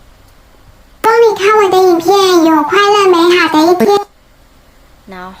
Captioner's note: female voice